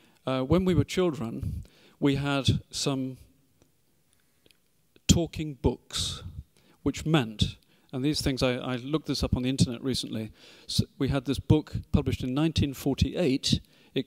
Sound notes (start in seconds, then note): none